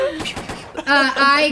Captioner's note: fireworks popping